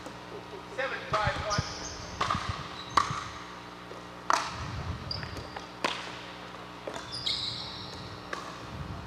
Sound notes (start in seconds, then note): 2.1 ball bouncing